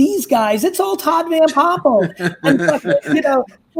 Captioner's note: laughs